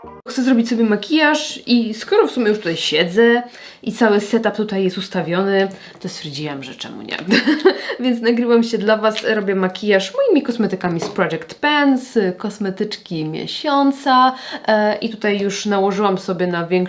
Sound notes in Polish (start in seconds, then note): 7.3 śmiech